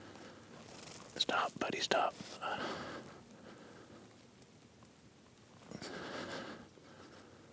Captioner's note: whispering